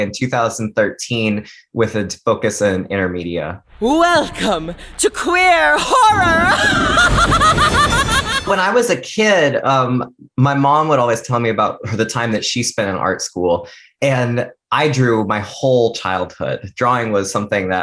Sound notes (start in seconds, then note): 5.7 laughs